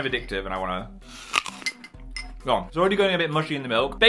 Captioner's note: crunches on cereal